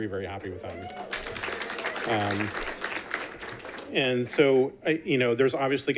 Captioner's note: people cheering and clapping